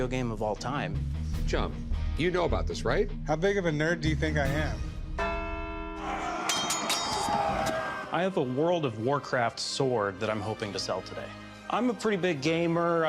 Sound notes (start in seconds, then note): 6.0 shouting, swords clanking; 6.5 bell rings